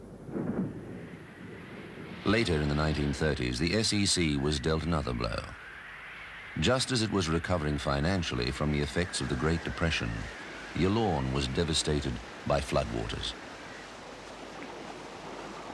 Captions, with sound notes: (wind howling) Later in the 1930s, the SEC was dealt another blow. Just as it was recovering financially from the effects of the Great Depression, Yallourn was devastated by floodwaters. (water flowing)